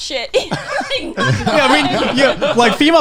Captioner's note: laughing